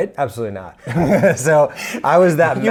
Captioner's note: laughs